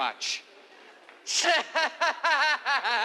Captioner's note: laughing